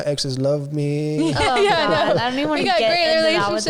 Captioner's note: laughs